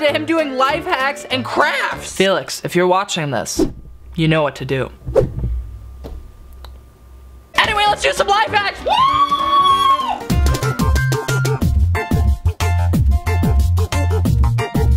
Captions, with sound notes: to him doing life hacks and crafts. Felix, if you're watching this, you know what to do. Anyway, let's do some life hacks! (cheering) (upbeat music)